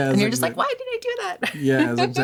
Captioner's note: laughter